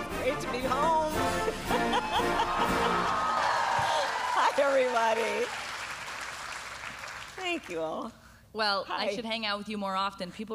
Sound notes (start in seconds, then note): 1.6 laughs; 5.7 applause